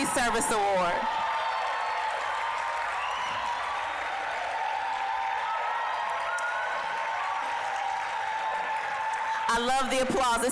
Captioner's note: applause, cheering